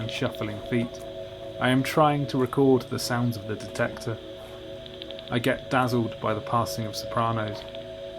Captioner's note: clicking bat calls